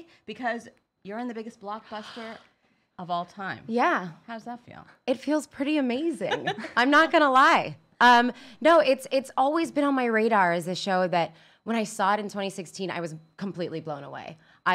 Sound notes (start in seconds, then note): 6.2 laughs